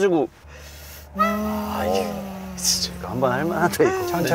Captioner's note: making the engine sound